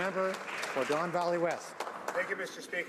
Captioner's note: some Applause